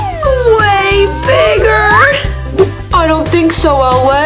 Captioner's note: slide whistle; whooshing